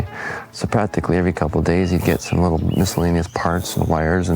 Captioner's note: electrical buzz sounds